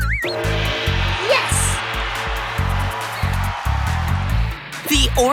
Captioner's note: cheering